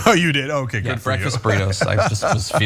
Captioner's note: laugh